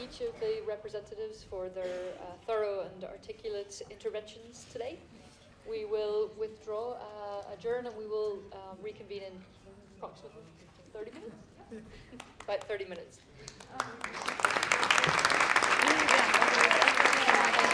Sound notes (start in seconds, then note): 13.3 applause